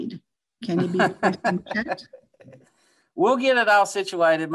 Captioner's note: laughs